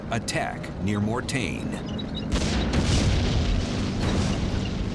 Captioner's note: explosions